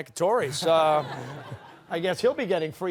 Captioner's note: chuckles